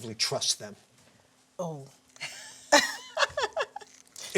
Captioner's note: laughter